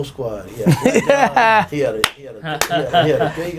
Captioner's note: laughing